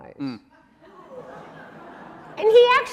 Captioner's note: audience laughing and groaning